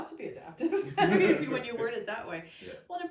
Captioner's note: laughs